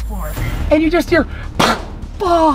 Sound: pop!

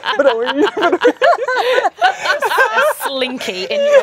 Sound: laughing

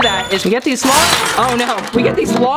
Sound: items clank

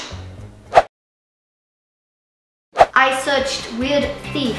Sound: air whooshes

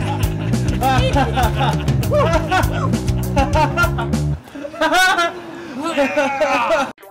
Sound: maniacal laughter

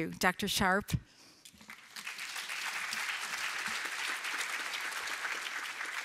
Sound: applause

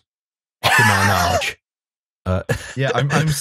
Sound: laughs

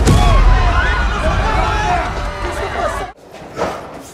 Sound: explosion; shouting

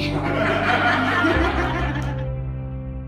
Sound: laughter

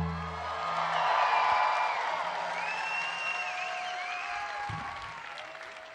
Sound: audience applauding; audience cheering

